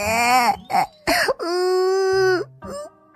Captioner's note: sniffles